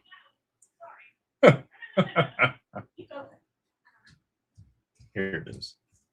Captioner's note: laughter